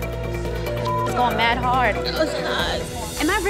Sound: beep

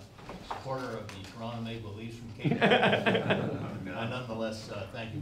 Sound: laughing covers speaking

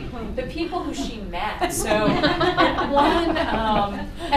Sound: laughter

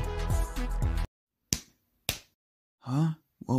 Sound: clap clap!

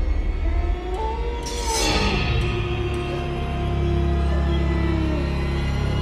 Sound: wolf howling

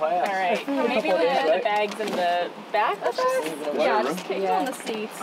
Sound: chattering

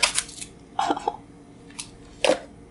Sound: chuckles

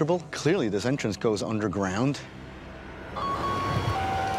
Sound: siren

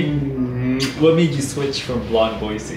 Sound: lips smacking

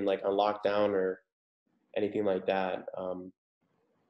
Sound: laughs

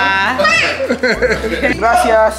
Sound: laughs

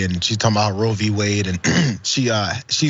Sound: cough

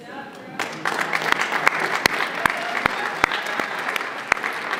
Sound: applause

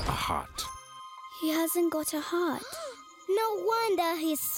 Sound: gasping

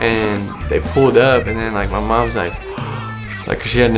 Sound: gasps

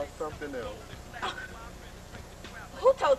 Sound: chuckles

